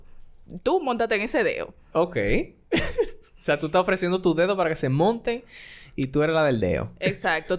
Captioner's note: laughs